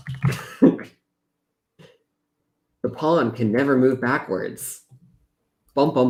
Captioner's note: laughs